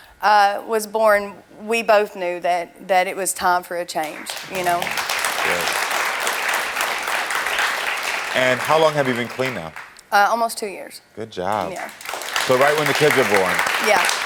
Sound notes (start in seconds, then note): 4.0 audience clapping; 11.5 audience clapping